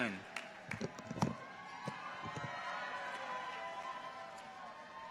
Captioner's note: people cheer